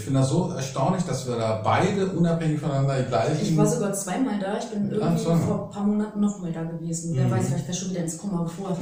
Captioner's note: laughing